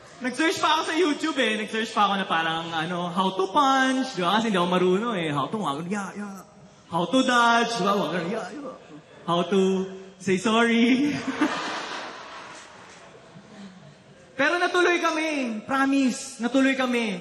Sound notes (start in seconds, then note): 11.0 laughter; 11.0 chuckles